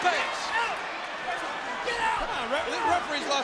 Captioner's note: referee shouting